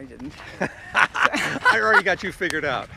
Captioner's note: laughing